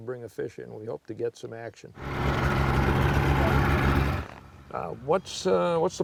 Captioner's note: boat engine revs